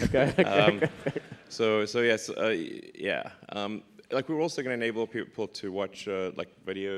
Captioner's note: laughs